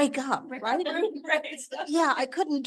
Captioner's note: audience laughing